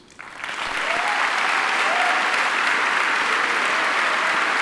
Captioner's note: audience applauding